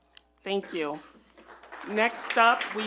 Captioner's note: attendees clap